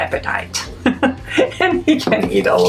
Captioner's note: laughs